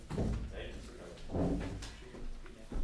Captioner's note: background comments